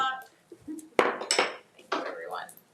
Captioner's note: gavel thudding